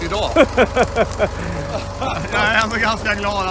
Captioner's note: chuckles